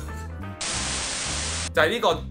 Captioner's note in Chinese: 雪花聲